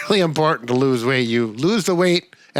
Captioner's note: laughs